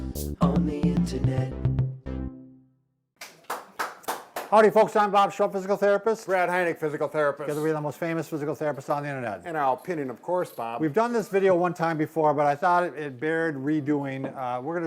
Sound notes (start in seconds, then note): 3.2 clapping